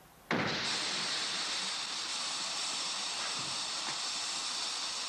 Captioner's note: truck hissing